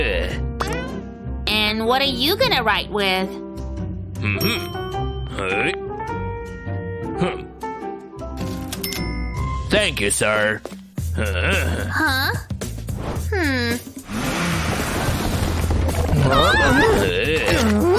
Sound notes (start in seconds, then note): 7.7 groans